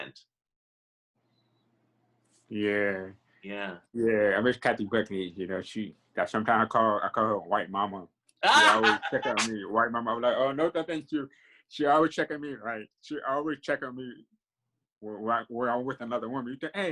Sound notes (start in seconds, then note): 10.0 laughing